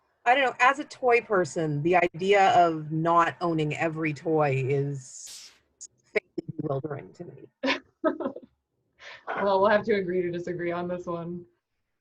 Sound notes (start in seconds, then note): 7.6 laughing